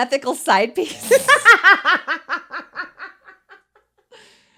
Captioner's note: both laughing